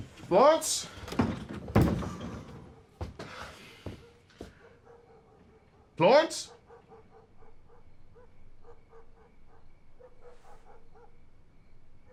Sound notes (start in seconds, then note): 6.7 dog barking in distance